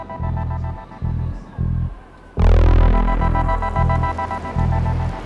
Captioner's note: ambient music; sizzling